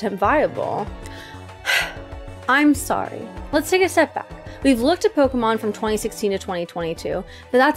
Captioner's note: breathes